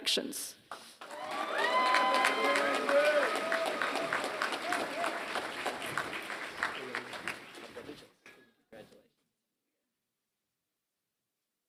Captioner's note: applause